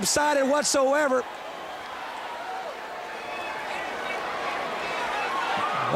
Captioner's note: crowd chatter